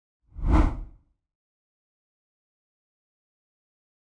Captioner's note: rough whooshing